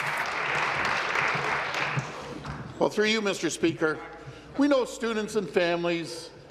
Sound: applause

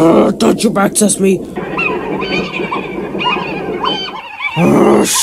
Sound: trucks laughing

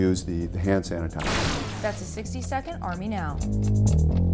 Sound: clock ticking; bass guitar playing

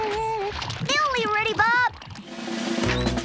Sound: humming

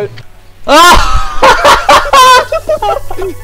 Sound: laugh

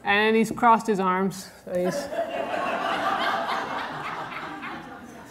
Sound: audience laughter

